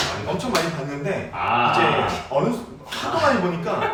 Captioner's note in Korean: 짝짝!!